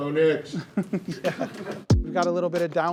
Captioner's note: chuckles